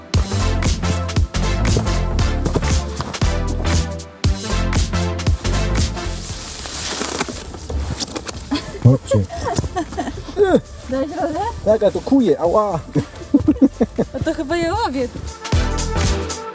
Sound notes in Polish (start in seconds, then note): 0.6 śmiech